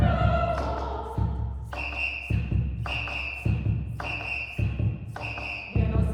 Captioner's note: whistles